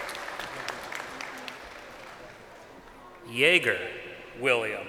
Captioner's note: crowd applauding